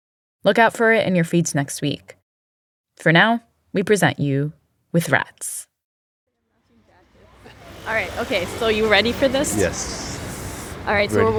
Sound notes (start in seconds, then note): 6.4 soundbite of street ambience